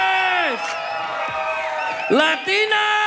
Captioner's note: audience cheers